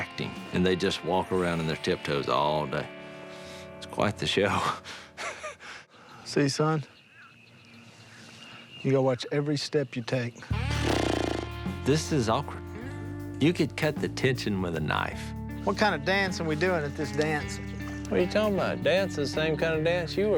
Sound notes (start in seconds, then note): 10.6 blows raspberries